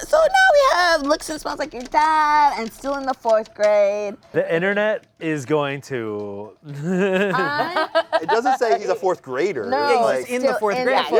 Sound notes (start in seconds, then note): 6.7 laughs